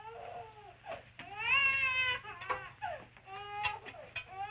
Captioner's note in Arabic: يستمر الطفل في البكاء